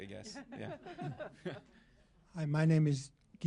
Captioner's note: laughter